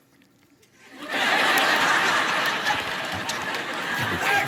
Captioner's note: audience laughs